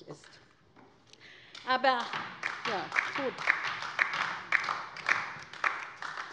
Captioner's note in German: Beifall bei der LINKEN